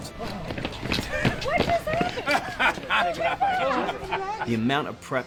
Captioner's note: laughs